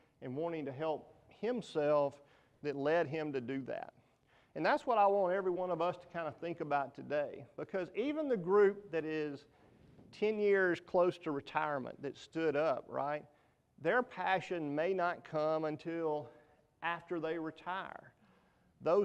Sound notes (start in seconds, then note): none